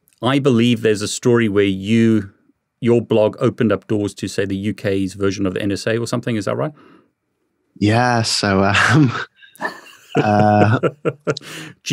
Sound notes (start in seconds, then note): 8.7 laughing; 8.8 chuckling